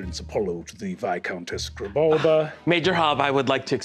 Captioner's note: scoff